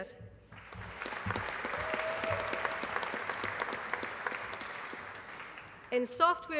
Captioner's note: applause